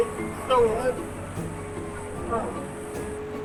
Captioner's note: cheerful music; Zamboni whirring